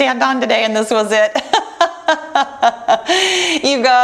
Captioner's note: laughs